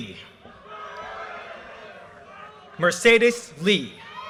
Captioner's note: audience cheers and applause